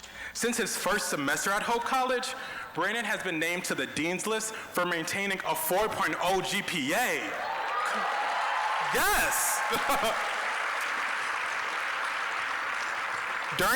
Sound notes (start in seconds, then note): 6.9 applause, cheering; 8.8 laughing; 10.1 applause